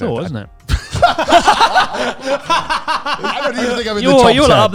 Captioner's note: all laughing loudly